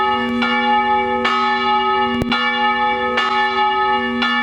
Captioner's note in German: Kirchenglocken